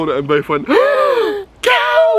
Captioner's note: both gasping